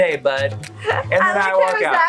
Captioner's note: laughs